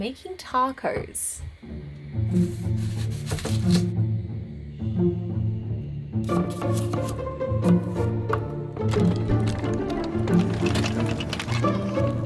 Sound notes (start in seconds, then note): 4.6 knife slicing; 8.8 jack turning